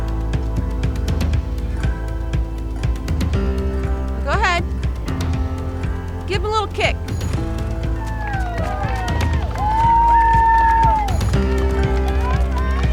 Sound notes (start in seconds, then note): 7.0 campers applauding; 7.2 campers cheering